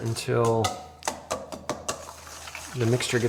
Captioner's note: whisk taps